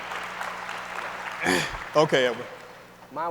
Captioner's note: audience applauds